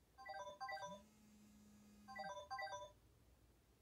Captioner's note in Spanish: alarma